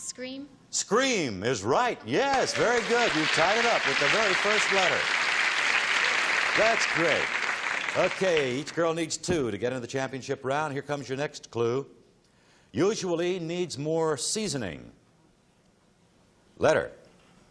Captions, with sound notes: OK, Forinne. - Scream. - Scream is right. Yes, very good. You tied it up with the very first letter. [applause] That's great. OK, each girl needs two to get into the championship round. Here comes your next clue. Usually needs more seasoning.